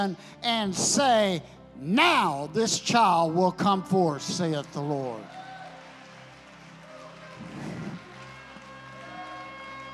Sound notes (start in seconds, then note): 5.5 congregation clapping; 8.1 gentle music